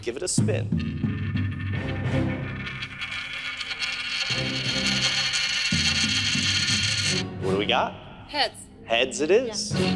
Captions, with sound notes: give it a spin. (coin clattering) What do we got? - Heads. - Heads it is. - Yes.